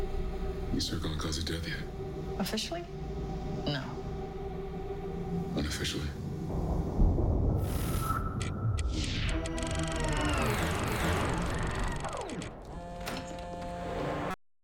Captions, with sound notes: You circling a cause of death yet? Officially? No. Unofficially? [ Door opens ] [ Cellphone buzzes ]